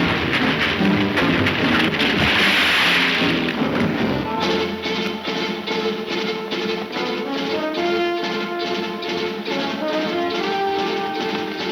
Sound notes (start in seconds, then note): 0.0 splashing; 2.5 suspenseful music